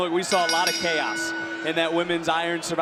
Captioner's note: bell rings